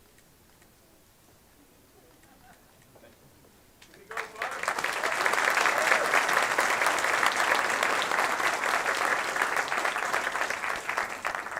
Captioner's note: applause